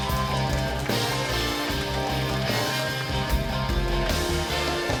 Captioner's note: cheering